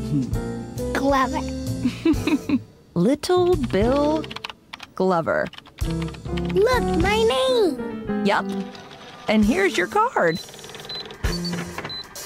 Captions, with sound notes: Glover. [laughs] Little Bill Glover. Look! My name! Yep! And here's your card.